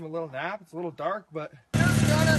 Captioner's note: engine revving